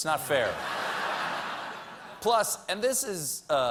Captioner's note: laughter